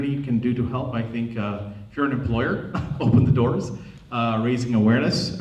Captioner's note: chuckles